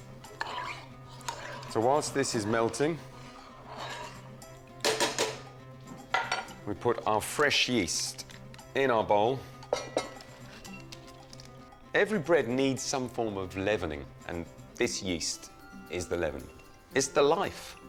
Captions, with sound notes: (spoon rustling) So whilst this is melting, (spoon clanging) we put our fresh yeast in our bowl. (bowl clangs) Every bread needs some form of leavening, and this yeast is the leaven. It's the life.